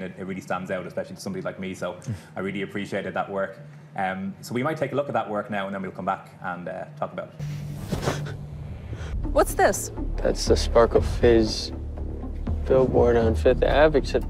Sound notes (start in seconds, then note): 6.5 droning music; 7.6 bag sliding